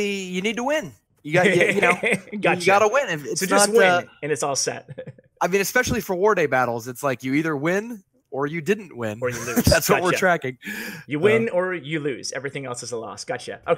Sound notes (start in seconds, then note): 9.3 laughs